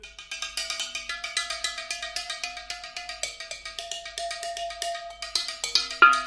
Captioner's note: tapping sounds